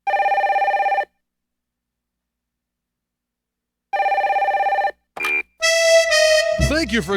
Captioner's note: ring. Ring